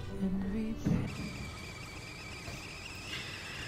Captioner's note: tea kettle whistling